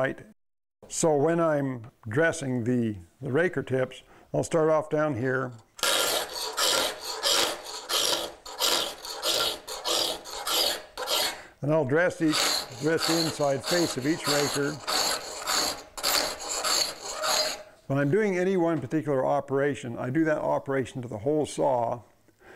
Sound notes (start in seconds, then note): 5.7 metal-on-metal grinding; 14.9 metal-on-metal grinding